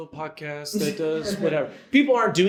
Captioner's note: audience laughs